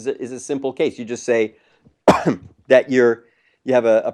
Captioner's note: cough